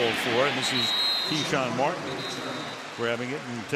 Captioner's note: whistle blows